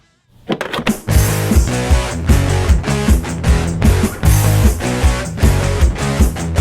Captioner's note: cartridge clacks; upbeat metal music